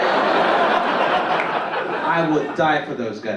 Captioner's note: audience laugh